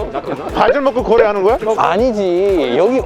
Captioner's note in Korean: 폴짝